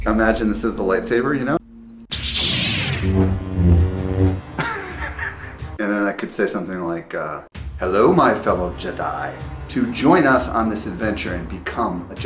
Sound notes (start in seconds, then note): 2.1 light saber whooshing